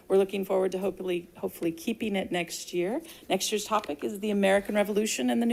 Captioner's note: none